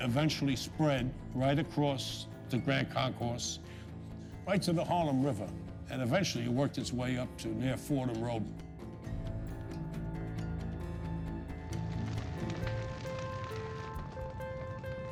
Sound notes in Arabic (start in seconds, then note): 11.8 طقطقة النار; 12.7 موسيقى حزينة متوترة